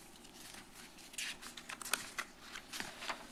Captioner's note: rustles